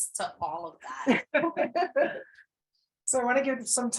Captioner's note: people laugh